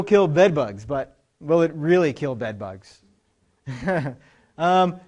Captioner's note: laughs